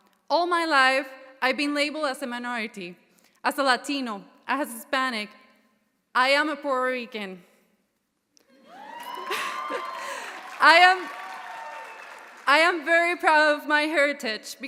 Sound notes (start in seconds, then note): 8.6 audience cheering; 8.6 audience applauding